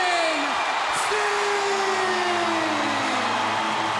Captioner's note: crowd cheers